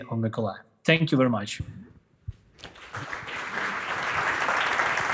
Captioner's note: applause